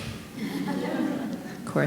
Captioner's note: audience laughing